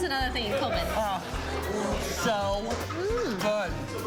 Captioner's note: laughs